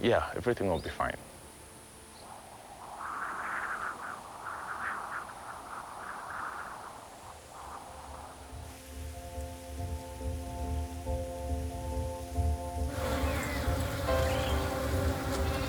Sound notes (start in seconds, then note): 3.0 wind blowing; 8.3 soft uptempo music; 12.8 buzzing; 15.2 soft uplifting music